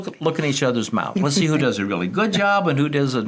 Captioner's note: laughs